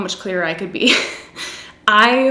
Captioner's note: giggles